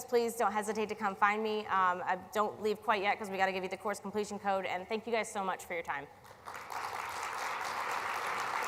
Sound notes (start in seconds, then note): 6.2 applause